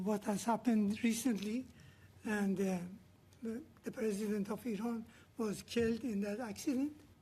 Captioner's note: speaking Alternate Language